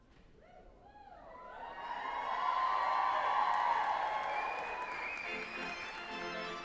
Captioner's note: group applauding and cheering; lively organ music